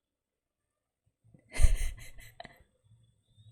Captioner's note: laughs